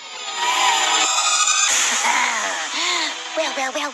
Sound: chuckling

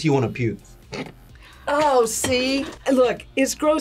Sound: gags

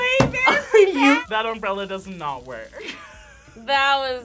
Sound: laughs

